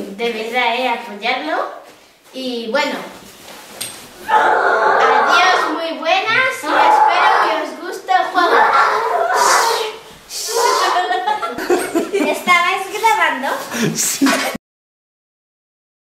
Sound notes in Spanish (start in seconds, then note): 4.2 grito; 10.7 risas